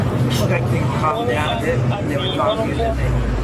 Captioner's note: radio chatter